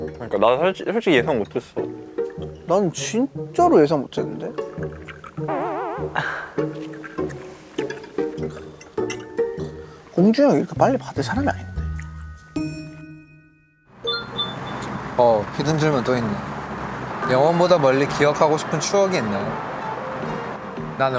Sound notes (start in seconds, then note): 14.0 rings